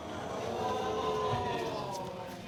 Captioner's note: audience exclaiming